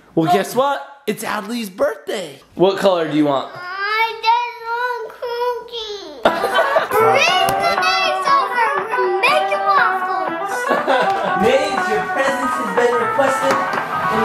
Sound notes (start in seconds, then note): 6.2 parents laugh; 10.6 dad laughs